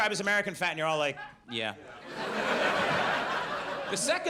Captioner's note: audience laughs